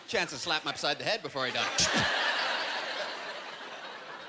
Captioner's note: vocalizing smacking